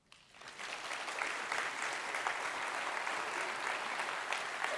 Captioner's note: audience applauds